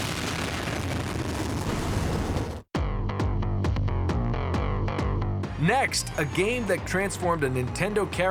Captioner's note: explosion